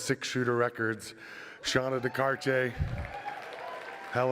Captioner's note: applause